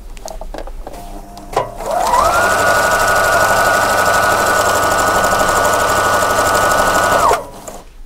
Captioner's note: loom making noise